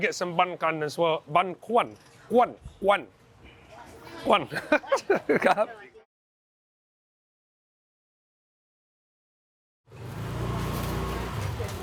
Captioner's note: laughs